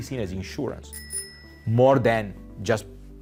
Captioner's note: bell dinging